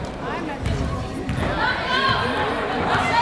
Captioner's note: chattering